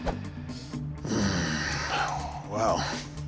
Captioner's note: sighs deeply